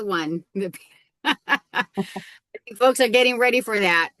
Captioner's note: laughing